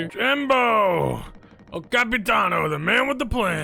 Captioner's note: none